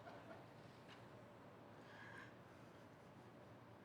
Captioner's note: laughter